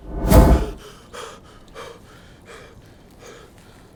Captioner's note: panting